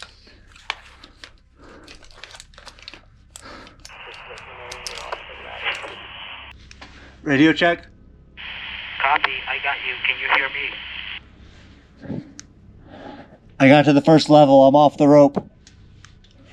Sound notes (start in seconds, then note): 3.9 radio static; 9.4 man On Radio